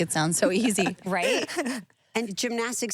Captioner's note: laughing